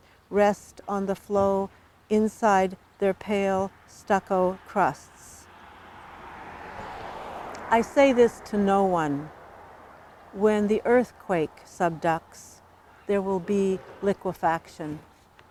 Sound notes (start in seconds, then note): 6.0 car passes